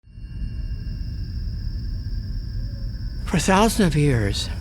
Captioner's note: wind rushes by, crickets chirp